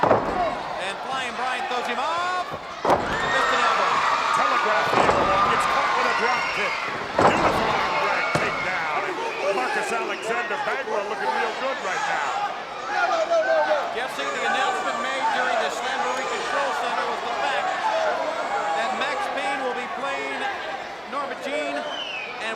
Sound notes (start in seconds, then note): 3.5 crowd cheering; 4.8 presenter speaking faintly off mic; 12.3 crowd chattering; 14.4 presenter speaking faintly off mic